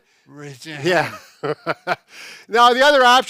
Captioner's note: laughing